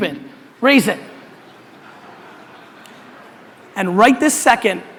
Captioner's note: audience laughter